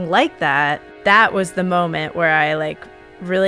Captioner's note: none